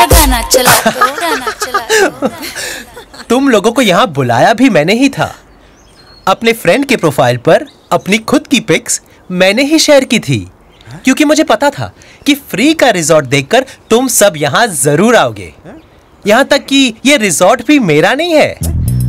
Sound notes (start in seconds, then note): 0.1 Laughs